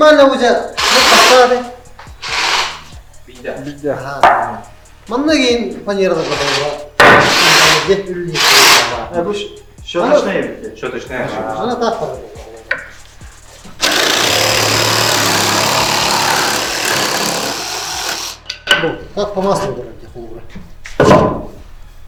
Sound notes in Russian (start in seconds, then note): 8.3 мотор